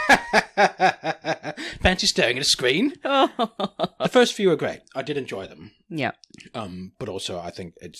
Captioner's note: laughs